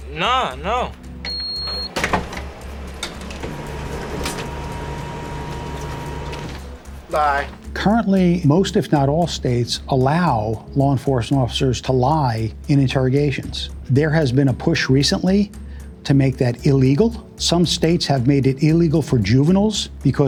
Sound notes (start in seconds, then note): 1.2 loud beep; 1.9 machine whirring